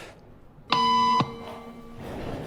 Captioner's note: beep